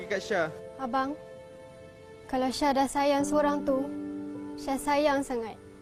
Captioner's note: speaking in foreign language